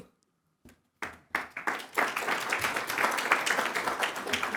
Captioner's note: audience applauds